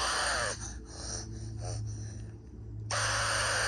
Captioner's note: grunts and snorts